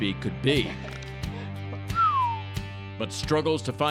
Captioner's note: whistles